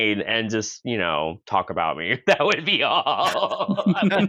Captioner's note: laughing; laughter